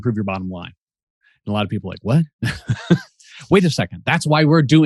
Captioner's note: chuckles